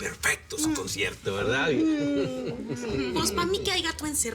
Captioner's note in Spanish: Ríe